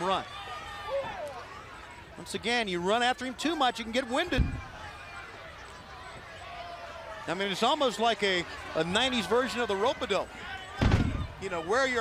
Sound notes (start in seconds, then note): 7.8 crowd chatter